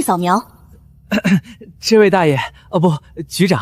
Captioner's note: cough cough